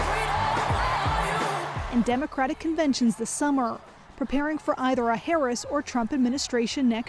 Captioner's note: cheers and Applause